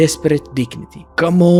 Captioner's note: through gritted teeth